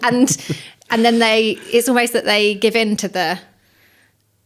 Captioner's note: laughs